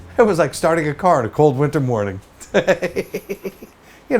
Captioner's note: laughs